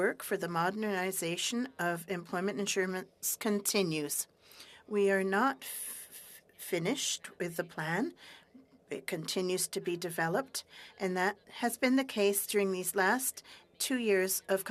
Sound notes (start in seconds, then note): 3.9 speaking french